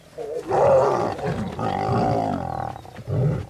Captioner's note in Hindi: दहाड़